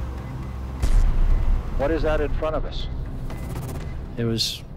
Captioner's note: man over radio